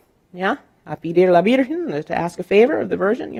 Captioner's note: speaking in Spanish